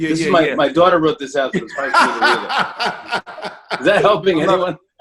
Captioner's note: laughs